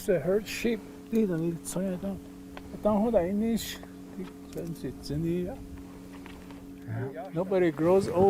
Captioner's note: speaks in Navajo